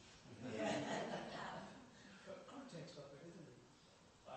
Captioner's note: laughter